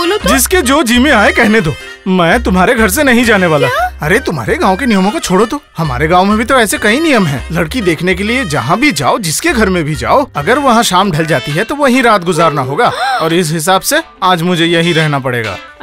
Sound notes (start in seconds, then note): 12.9 gasps